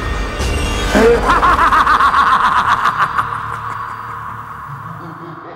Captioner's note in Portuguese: risos continuam